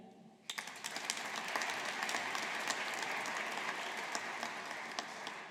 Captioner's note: audience applauding